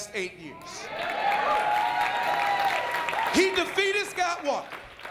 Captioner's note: applause